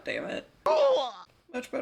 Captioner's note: Mario pain noise